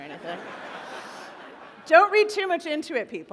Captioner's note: laughter